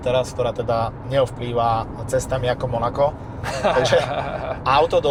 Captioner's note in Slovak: smiech